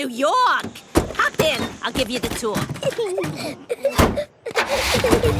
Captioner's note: Peppa and George laughing